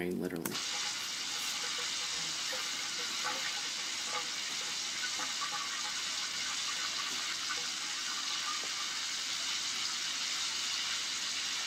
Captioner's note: shower noise